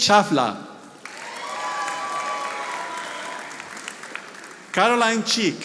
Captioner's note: audience applauding